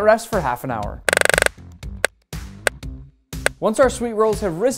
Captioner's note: timer ticking